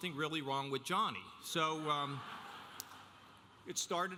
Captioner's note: audience laughing